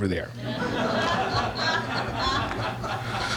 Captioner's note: laughter